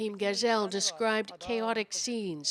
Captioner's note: speaking Foreign Language